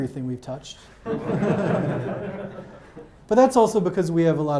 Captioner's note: audience laughs